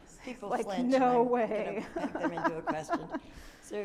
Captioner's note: laughs